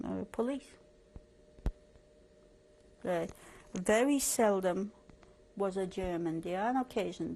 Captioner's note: pauses for 3 seconds